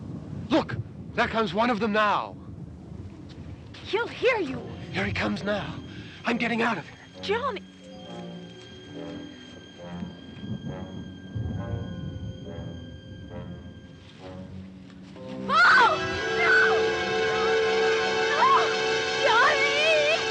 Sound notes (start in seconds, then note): 15.4 screaming